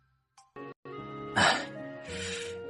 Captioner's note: sigh